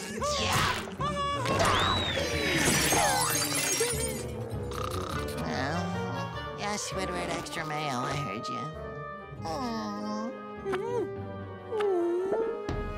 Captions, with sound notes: [grunting] [shattering] [snoring, grumbling] Yes, Squidward, extra mayo, I heard you.